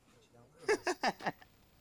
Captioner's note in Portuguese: risos